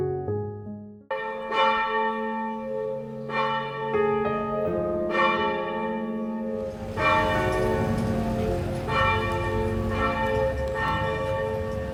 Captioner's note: church Bells